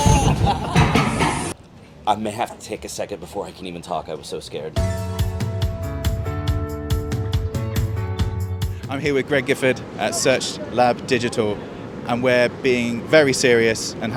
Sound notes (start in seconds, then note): 0.0 laughter; 4.8 bouncy pop music